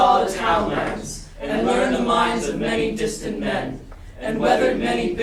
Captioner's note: chanting